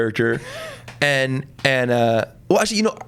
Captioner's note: laughs